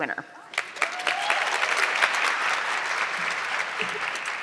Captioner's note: audience clapping